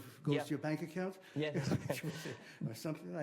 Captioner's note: chuckling